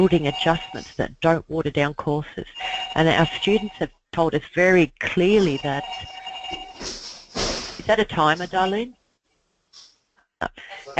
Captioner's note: ringing noise